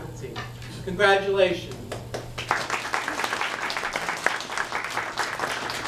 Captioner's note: audience applauds